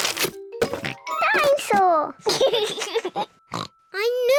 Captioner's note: oinks; laughs; oinks